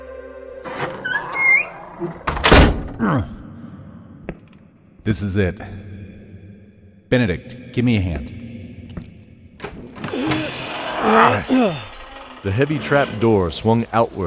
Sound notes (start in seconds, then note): 2.9 grunting; 9.6 final grunt swinging a trap door open; 12.1 grunt